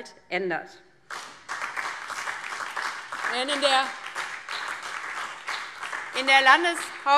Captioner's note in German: Beifall DIE LINKE, BÜNDNIS 90/DIE GRÜNEN und SPD